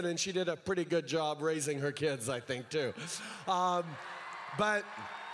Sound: crowd cheers

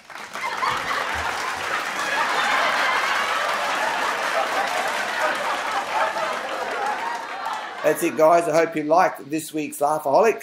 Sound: laughter and clapping

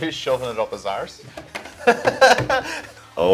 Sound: laughs

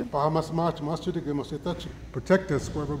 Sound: speaking in foreign language

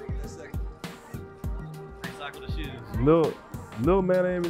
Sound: crowd talking

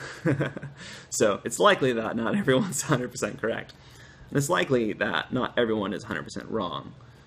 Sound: laughter

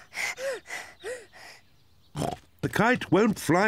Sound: snorts

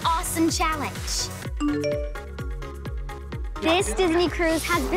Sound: text chimes

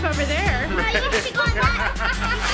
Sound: laughter

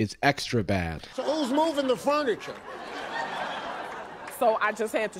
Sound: crowd laughing

